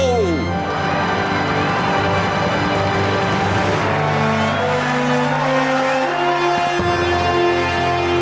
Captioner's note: cheering